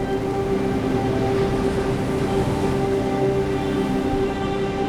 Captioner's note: waves crashing